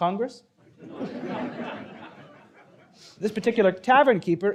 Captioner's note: audience laughing